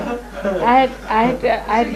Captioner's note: laughter